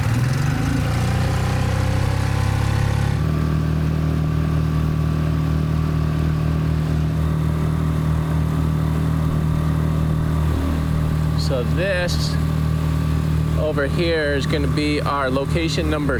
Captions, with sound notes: (engine buzzes) (engine whirs) So this over here is gonna be our location number six,